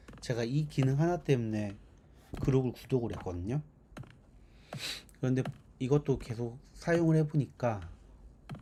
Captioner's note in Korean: 콧방귀